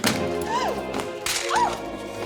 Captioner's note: clattering; dramatic music